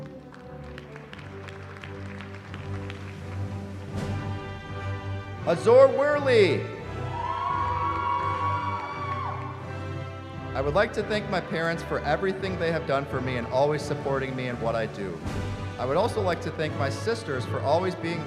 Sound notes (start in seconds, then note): 0.0 applause; 6.9 cheering